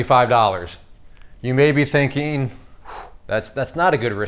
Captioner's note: sharply exhales